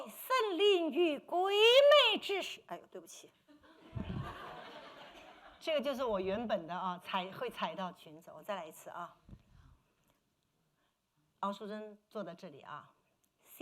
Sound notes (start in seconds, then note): 8.8 speaking Mandarin